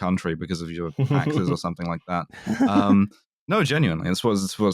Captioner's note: chuckles